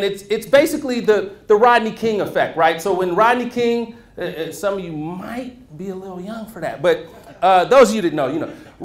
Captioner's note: laughter